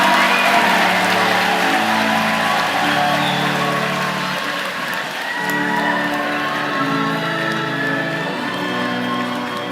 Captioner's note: cheers and applause